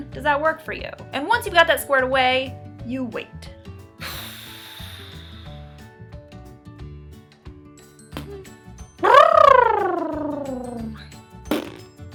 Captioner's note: making fun noises